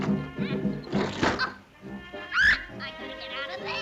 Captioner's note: head thuds